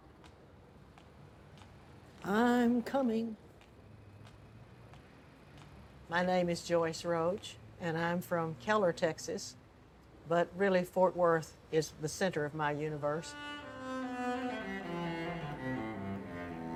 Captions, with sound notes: (shoes tapping) I'm coming. My name is Joyce Roach, and I'm from Keller, Texas, but really, Fort Worth is the center of my universe. (orchestral music)